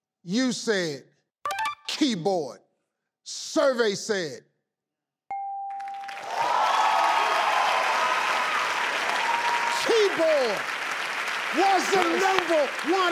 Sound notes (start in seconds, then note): 5.3 bell dings; 5.8 audience applauds